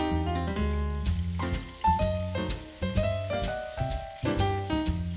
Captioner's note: robust sizzling